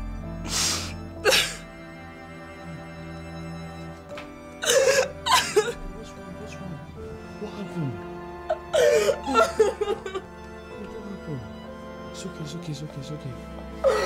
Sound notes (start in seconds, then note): 1.2 Efosa crying; 4.6 Efosa Sobbing; 8.5 Efosa Sobs loudly; 13.8 Efosa Sobs